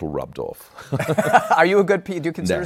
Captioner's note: laughter